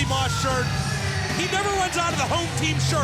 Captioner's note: crowd cheering